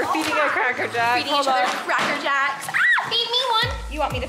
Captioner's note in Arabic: يصرخ بحماس